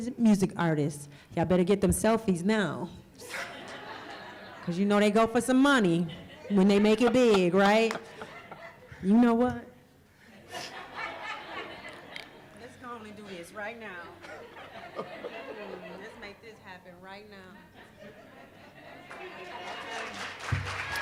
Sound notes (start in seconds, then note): 3.2 laughter; 20.8 laughter